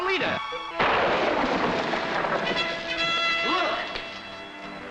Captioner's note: lightning booming